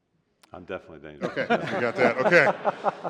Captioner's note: laughter